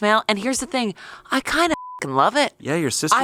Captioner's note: beep